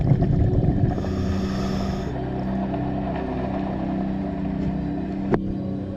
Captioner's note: underwater sounds continue